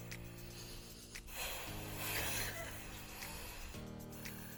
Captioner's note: over inhaling